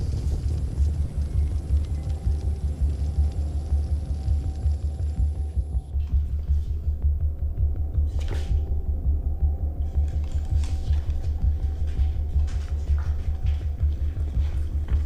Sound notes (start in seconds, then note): 3.0 fire crackling